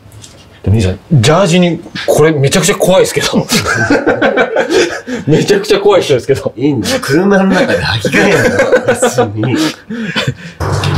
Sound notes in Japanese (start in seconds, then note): 3.5 笑い声; 9.9 笑い声